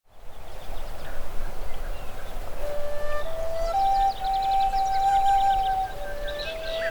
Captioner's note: birds chirping and wind blowing